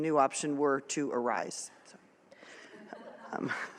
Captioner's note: laughter